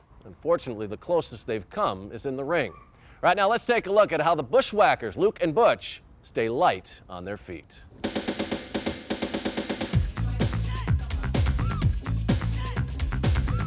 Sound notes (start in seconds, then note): 8.0 upbeat music; 8.1 group clamoring